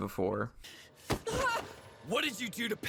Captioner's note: Izuku yelps